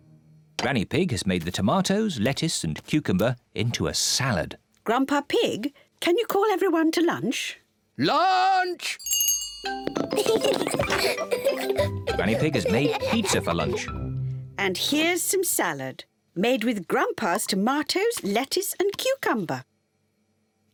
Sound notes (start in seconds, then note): 9.0 rings bell; 10.0 both laugh